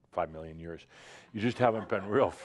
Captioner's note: some chuckles